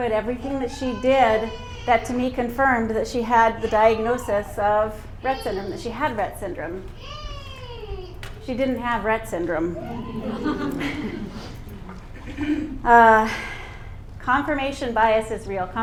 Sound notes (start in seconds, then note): 9.9 laughter